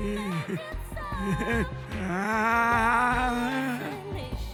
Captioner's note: laughs